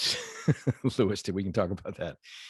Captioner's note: laughs